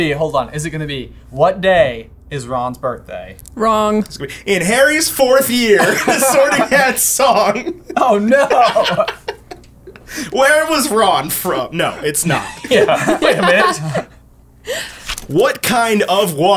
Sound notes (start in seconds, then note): 5.7 laughter